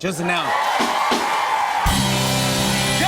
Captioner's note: cheers and applause